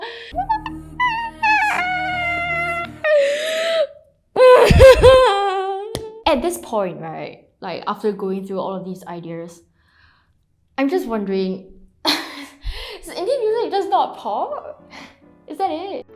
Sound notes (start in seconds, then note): 4.4 unholy shrieking continues; 13.2 coughs